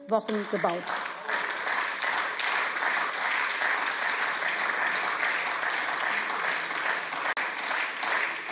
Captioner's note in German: Beifall